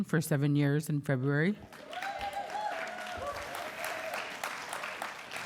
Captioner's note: applause